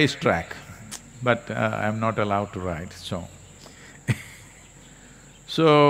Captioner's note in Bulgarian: Смее се